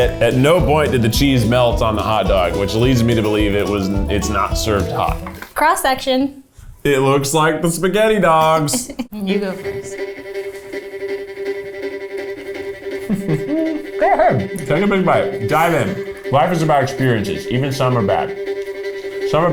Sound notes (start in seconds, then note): 11.1 suspenseful music; 13.0 hums